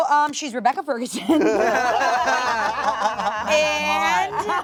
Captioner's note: everyone laughs